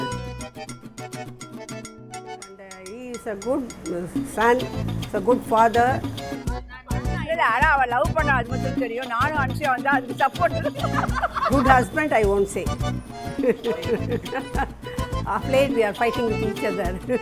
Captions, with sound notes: He is a good son, a good Father But we knew that she loved him, me and Anusya only stood for it. Good husband, I won't say (laughs) Off late we are fighting with each other.